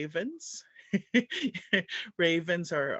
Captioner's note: laugh